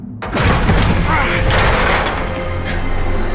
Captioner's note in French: grogne